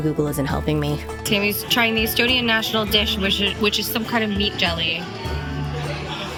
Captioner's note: hoots